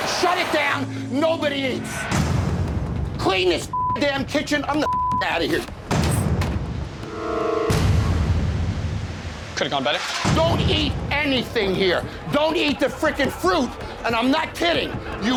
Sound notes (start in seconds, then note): 3.7 beep; 5.8 door thuds; 6.1 dramatic music